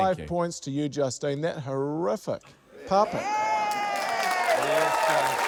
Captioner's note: cheering